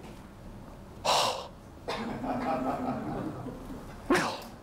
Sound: shocked gasp

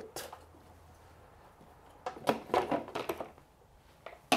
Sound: plastic clattering

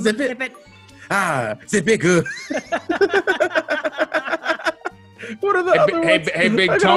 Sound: laugh

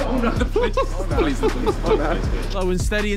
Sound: laughing

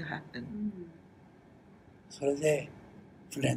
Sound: foreign language

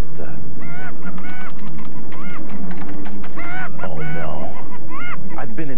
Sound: laughing continues

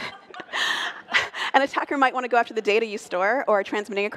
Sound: laughter

